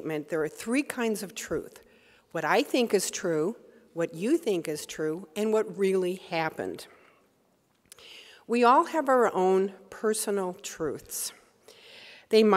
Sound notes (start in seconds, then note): none